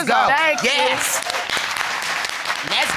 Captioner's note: audience cheers